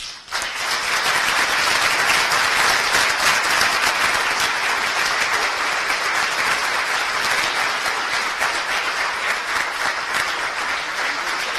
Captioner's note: applause